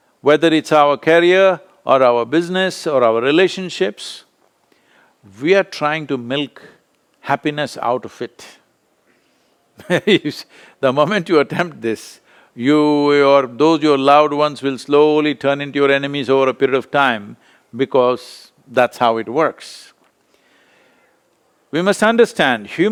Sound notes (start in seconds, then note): 9.8 laughs